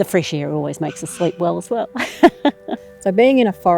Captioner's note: laughs